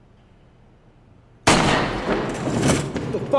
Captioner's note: gunshot